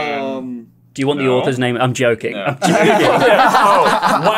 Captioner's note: laughter